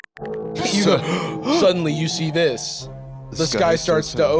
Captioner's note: gasps